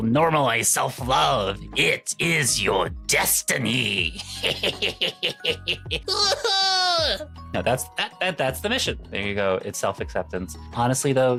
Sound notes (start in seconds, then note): 4.1 cackling; 4.9 crying